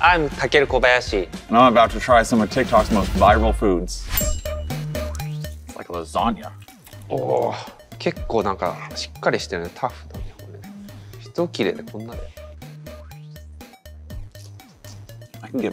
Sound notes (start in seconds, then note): 4.4 upbeat music; 8.2 Takeru speaks Japanese; 12.7 upbeat music continues